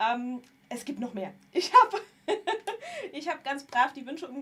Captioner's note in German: gelächter